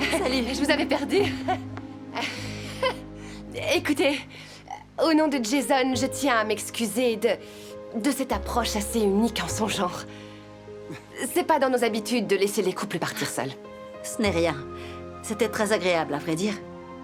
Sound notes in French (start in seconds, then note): 2.1 gloussements